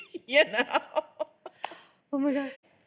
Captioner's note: laughing; both laughing